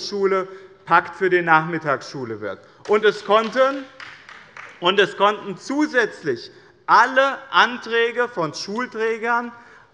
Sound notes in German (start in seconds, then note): 2.8 Beifall der Abg